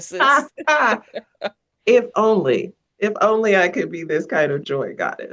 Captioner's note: laughs